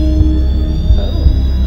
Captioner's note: equipment whines